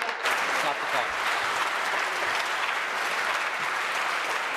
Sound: applause

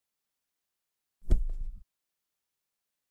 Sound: sound of pillow

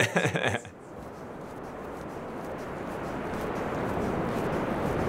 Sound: laughs; waves whooshing

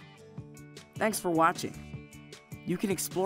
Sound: voiceover

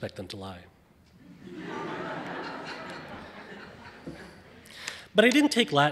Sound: audience laughing

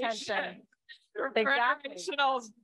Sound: chatter

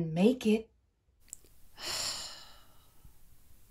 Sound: sighs

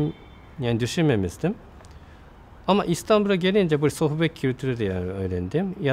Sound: conversation

